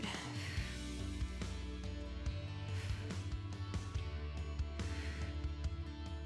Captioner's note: upbeat music continues; exhaling